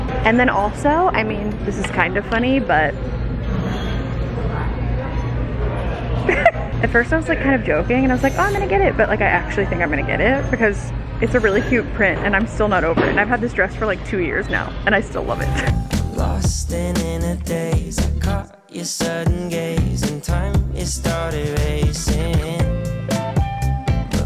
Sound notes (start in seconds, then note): 6.1 laughs; 15.8 upbeat music